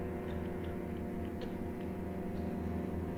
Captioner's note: none